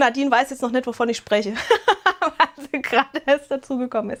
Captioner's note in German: Gelächter